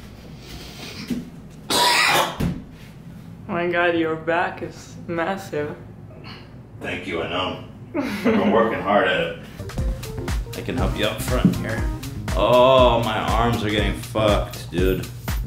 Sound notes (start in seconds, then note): 6.6 deep voice